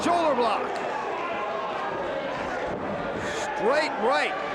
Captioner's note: audience applauds and cheers